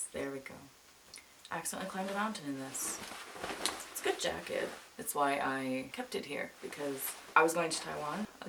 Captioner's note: coat rustles